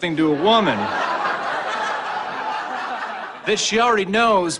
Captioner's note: laugh track